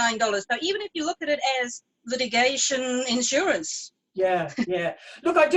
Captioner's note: chuckles